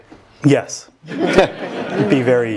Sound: laugh

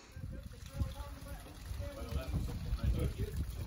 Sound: water running

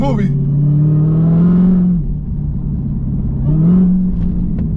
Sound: car engine revving

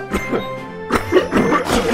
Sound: cough

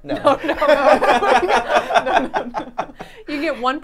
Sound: all laughing

